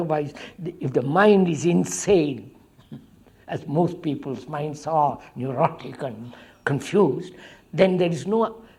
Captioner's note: laughs